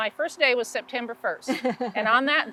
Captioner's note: laughs